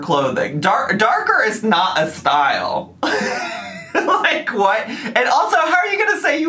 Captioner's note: laughs